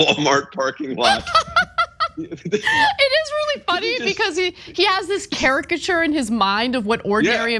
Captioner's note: laugh